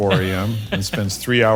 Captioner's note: laugh